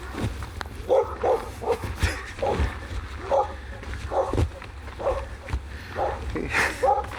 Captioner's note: dog Barking